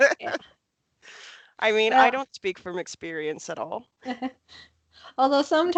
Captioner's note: laughs